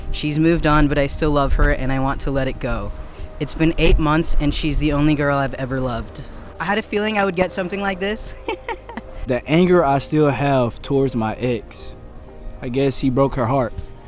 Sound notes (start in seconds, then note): 8.3 interviewee laughing